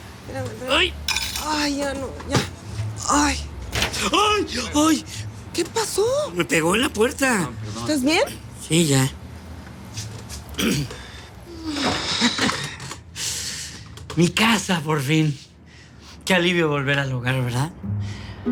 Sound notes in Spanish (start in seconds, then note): 3.8 Quejidos; 10.5 Carraspea